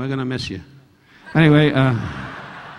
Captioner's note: audience laughing